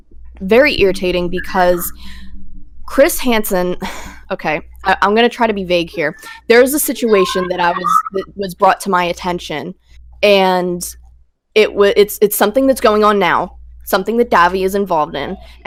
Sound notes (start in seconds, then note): 3.6 sighs